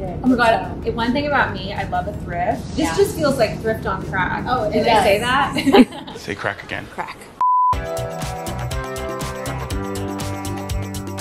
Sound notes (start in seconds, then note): 5.5 laughs; 7.7 energetic music